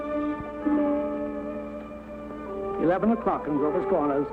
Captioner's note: bell ringing